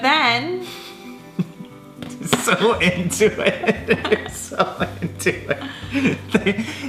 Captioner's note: laughing